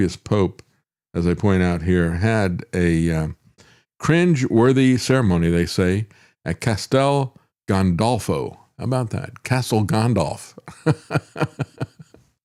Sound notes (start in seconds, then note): 10.8 laughs